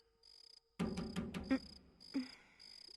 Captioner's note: knock On Door